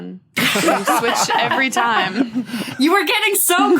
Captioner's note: others laugh heartily